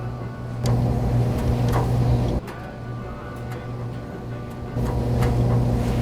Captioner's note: dryer hum builds more and more